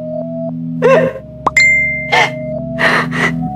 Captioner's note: Notification tone